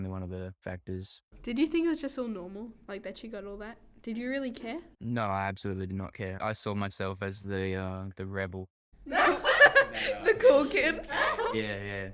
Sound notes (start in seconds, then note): 9.1 laughter